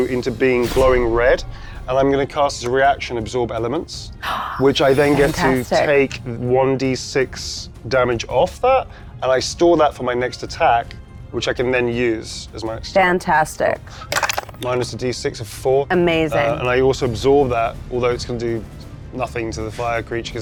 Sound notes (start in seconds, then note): 4.0 gasps; 12.8 speaks faintly